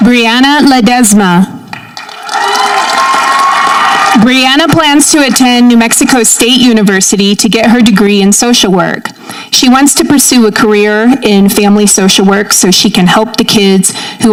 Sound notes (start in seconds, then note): 2.0 audience cheering